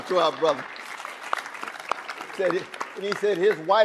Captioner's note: audience applauding